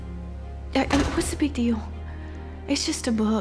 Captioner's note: door shuts